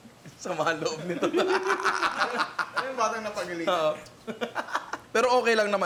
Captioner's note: laughs